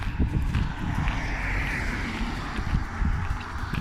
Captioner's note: traffic